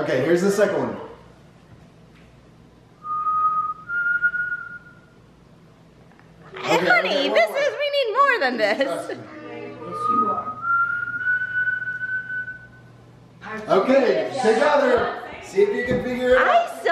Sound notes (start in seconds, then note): 3.0 whistles; 9.8 whistles